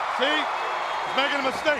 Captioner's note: crowd cheering